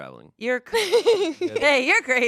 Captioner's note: laughs